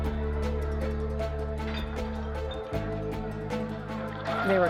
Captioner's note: glasses clinking